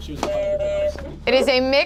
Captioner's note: buzzer honks